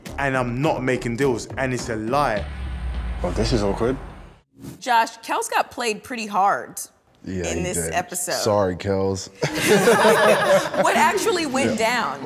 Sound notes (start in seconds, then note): 9.4 everyone laughs